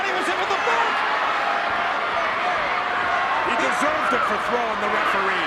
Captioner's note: applause